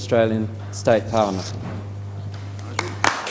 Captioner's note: applause